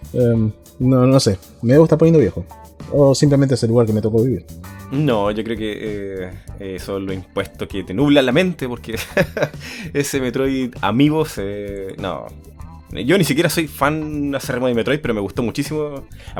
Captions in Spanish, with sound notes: mmm... no sé. Me debo estar poniendo viejo, o simplemente es el lugar en que me tocó vivir No, yo creo que son los impuestos que te nublan la mente, porque (risas) ese metroid amiibo se... no Yo ni siquiera soy fan acérrimo de Metroid, pero me gustó muchísimo